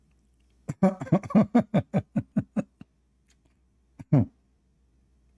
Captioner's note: Ketawa